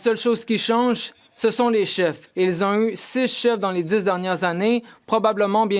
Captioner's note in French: voix de l'interprète